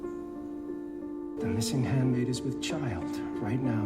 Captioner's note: voiceover